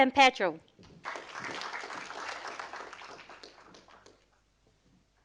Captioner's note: audience applauding